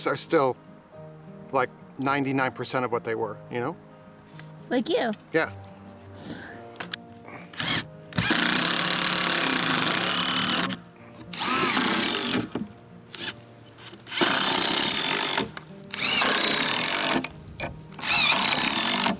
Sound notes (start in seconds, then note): 6.6 laughs; 8.1 drilling